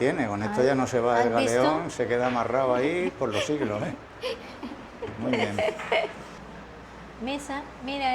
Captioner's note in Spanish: risas